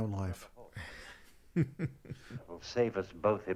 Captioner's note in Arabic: يضحك